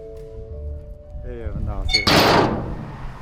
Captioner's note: door shuts